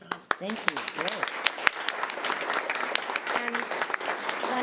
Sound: audience applauding

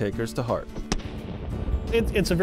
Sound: gunshot

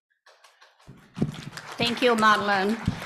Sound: applause

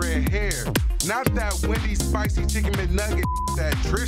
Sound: beep

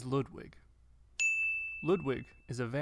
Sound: bell rings

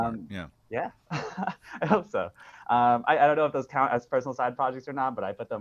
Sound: laughs

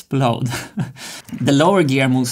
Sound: chuckles

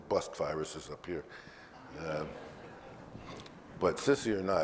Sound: audience laughs

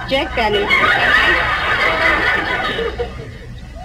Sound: audience laughs

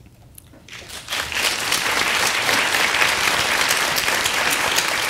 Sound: audience applause

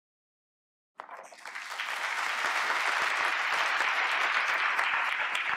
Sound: applause

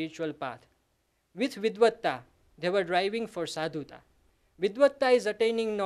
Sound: sanskrit

